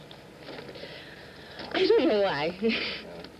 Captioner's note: laughing